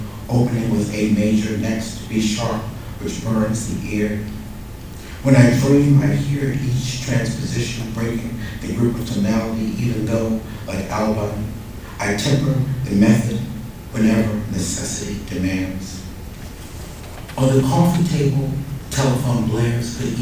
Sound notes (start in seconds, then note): none